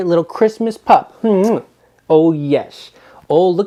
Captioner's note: kissing